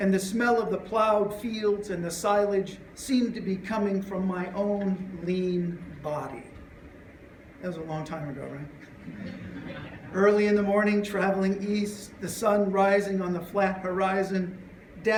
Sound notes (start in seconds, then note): 9.0 laughter